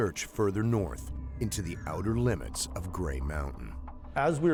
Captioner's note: voiceover